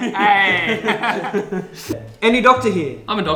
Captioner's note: laughs